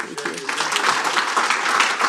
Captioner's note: applause